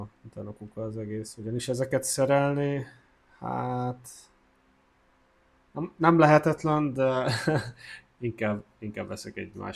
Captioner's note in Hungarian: nevetés